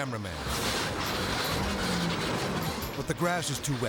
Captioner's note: car banging